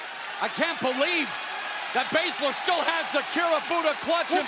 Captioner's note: cheers and applause